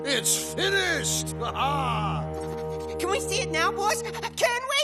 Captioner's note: laughs